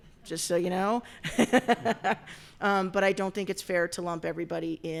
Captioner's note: laughs